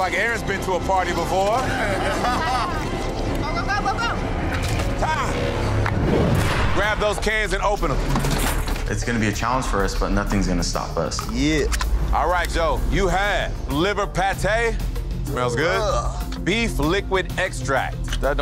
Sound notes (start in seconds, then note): 1.5 contestants laughing; 1.8 dramatic music; 4.5 blood splashing; 5.9 scene whooshing